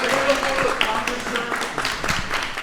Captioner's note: applause